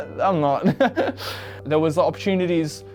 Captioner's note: laughs